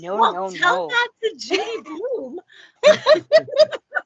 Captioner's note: laughing